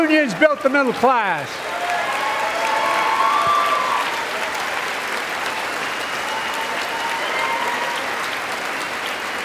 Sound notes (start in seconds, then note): 2.2 applause